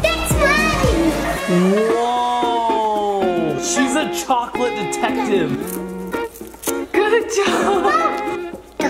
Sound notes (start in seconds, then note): 5.6 tape rips